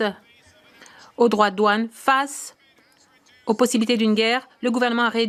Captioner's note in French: voix de l'interprète